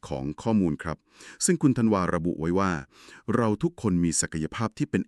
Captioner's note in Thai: เสียงสูดหายใจ